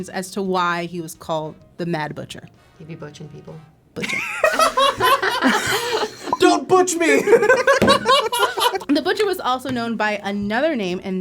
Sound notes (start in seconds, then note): 4.0 all laugh; 7.0 laugh